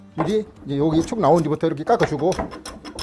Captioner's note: planing sound